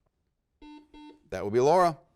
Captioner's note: buzzer rings